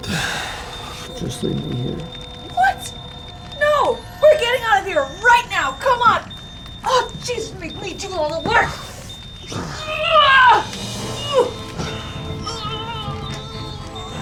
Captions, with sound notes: - (sighs) Just leave me here. - What? No! We're getting out of here, right now. Come on! Oh, geez, you make me do all the work. (jogger shouting and groaning) (dramatic music)